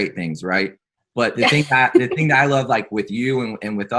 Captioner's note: laughs